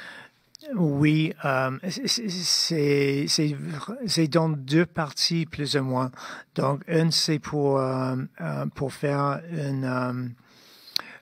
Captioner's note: speaking French